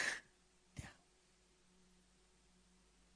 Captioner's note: sobs